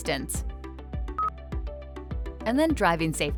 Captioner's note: button beeps